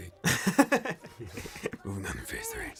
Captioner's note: deeper voice; laughter